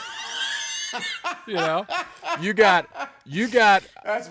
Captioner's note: laughter